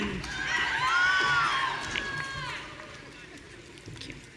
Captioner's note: audience cheering